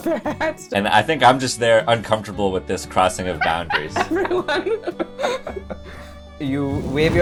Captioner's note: laughter